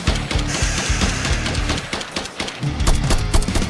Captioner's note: scorpion hisses